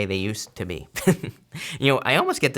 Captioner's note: laughs